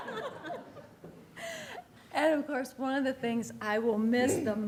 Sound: laughter

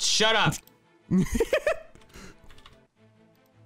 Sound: laughing

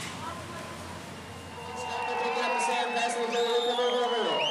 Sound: loud cheering & applause

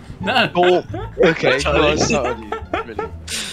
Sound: laughing

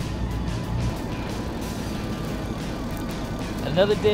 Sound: fishing line whirring

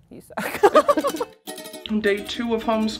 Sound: laughing

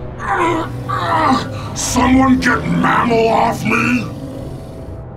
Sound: groans

